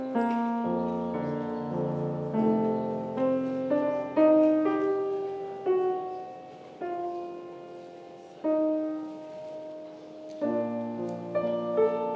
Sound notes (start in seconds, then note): none